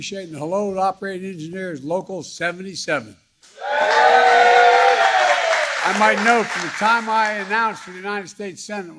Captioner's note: crowd cheering